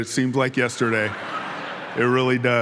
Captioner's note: audience laughing